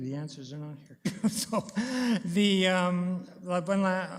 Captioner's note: chuckles